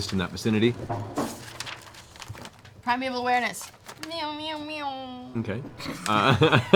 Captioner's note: radar sounds